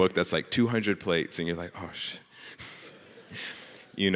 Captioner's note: speaks softly; audience laughing